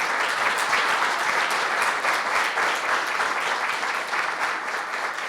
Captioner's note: applause